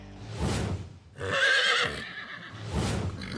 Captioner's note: horse neighs